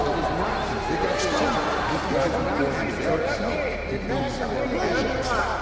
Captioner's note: shouting